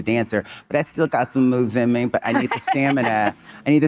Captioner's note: Monica laughing